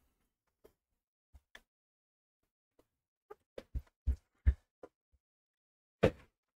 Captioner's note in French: Silence